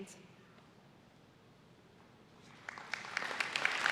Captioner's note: applause